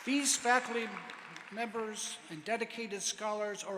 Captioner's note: applause